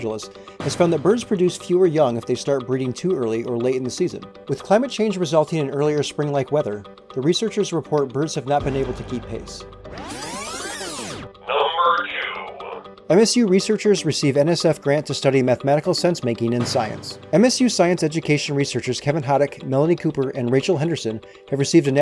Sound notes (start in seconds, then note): 9.9 electronic zipping